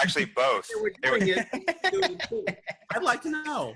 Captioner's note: laughing